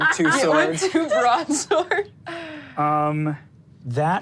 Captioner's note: laughs